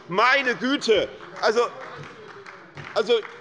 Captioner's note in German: Beifall bei Abgeordneten der SPD